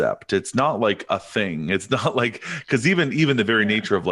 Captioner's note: chuckles